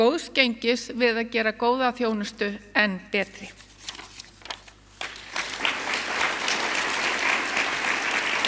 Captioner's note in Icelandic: fagnaðarlæti